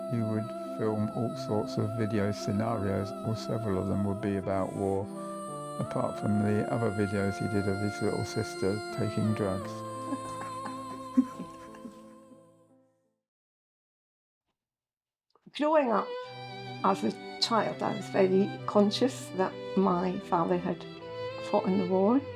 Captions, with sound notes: He would film all sorts of video scenarios, several of them would be about war, apart from the other videos he did of his little sister taking drugs. [Laughter] Growing up as a child I was very conscious that my father had fought in the war.